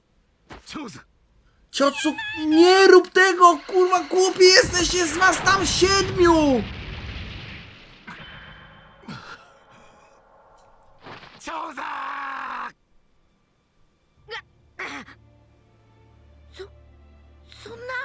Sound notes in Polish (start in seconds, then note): 12.7 krzyk